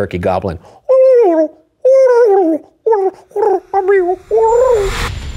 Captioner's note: imitating a turkey